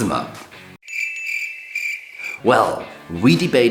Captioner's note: crickets chirping